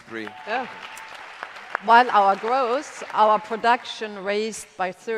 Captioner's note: applause